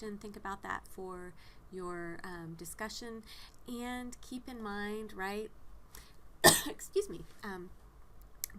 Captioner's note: coughs